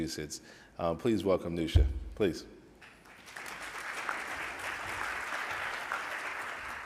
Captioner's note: audience applauds